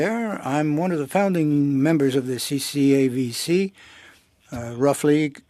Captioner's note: speaking French